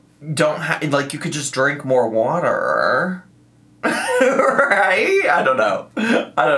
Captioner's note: laughs